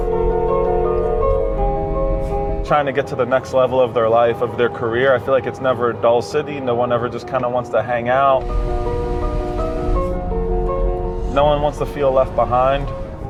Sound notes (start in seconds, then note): 0.0 phone rings; 8.4 traffic noises